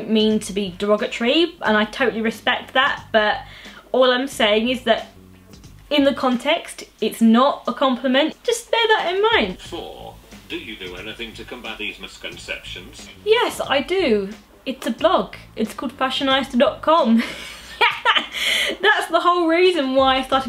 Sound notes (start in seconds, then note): 9.7 text to speech; 17.1 laughs